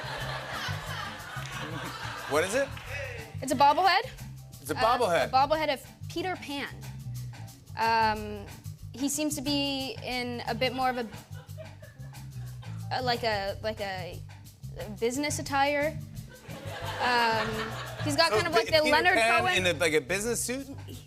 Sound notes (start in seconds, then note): 0.0 laughter; 16.4 laughter